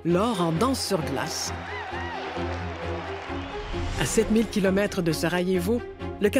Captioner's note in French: acclamations